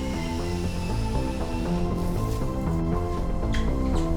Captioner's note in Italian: trapano in funzione; musica coinvolgente